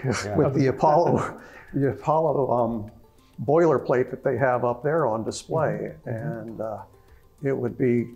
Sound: laugh

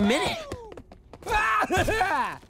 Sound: laughing

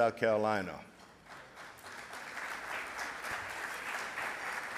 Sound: audience applauds

